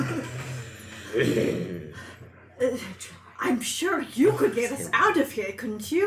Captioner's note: more snarling